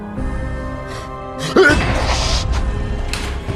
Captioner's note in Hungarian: tüsszentés